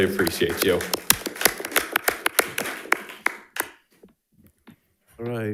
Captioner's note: audience applauding